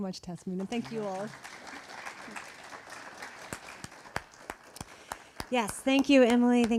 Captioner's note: audience applauding